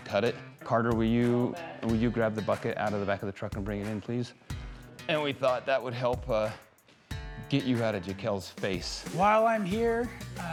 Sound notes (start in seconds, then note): none